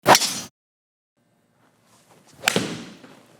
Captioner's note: golf club swing